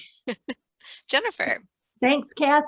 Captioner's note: laughs